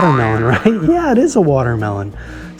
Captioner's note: spring boinging